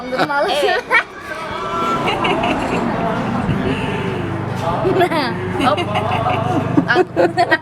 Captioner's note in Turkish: gülücük sesleri